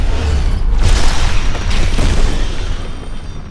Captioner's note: explosion